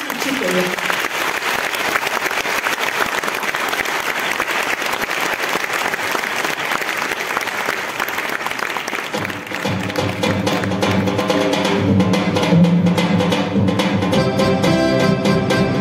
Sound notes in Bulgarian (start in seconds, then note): 0.0 аплодисменти